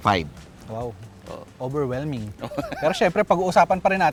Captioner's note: laughs